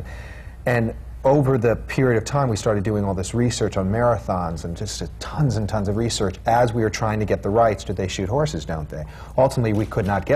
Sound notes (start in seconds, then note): none